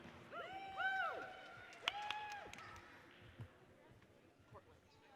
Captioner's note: audience cheers and applauds